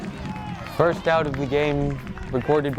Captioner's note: crowd cheering; crowd cheers